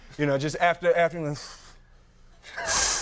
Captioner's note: sighs; audience softly laughing